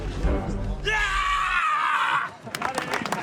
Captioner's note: screaming; all applauding